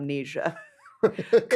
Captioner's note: both laugh